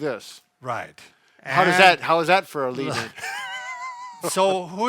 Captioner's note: chuckles